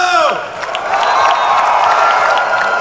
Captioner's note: crowd cheering